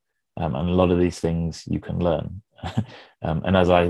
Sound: chuckles

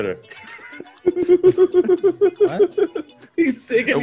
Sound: laugh

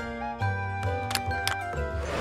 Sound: button click

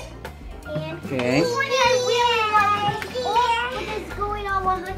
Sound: baby screaming

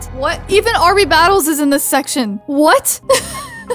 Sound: laughs

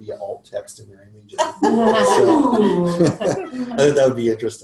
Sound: laughter

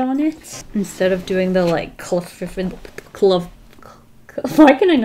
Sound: stumbles on words

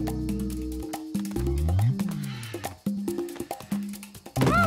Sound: yelps

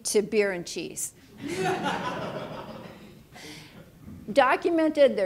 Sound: audience laughing

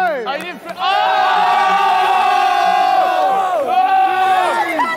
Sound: Sidemen cheering

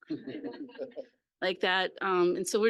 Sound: laughter

